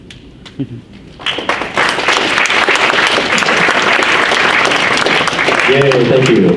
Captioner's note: audience applauds